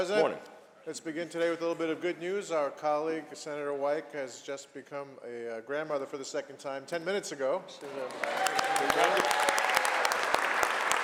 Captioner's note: cheers and applause; applause